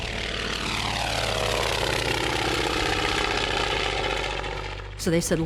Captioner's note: plane passing